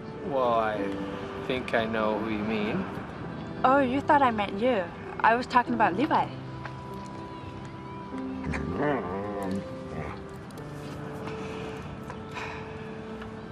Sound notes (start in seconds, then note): 8.4 soft growl; 11.2 sighing